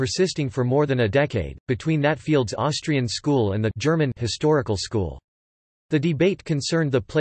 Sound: German

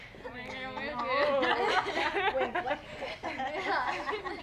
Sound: loud laughter

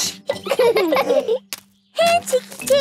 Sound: laughing

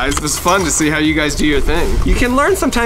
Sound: none

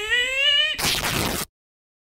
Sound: rip!

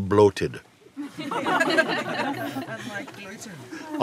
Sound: laughter

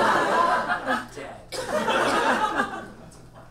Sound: audience laughs

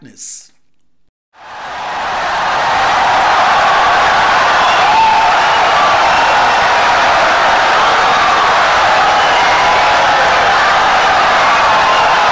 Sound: wild applause and cheering for 17 seconds

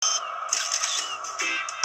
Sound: camera Shutter

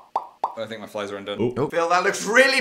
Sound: smacking lips

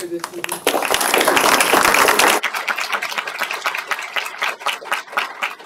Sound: applause

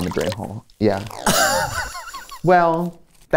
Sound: laughs

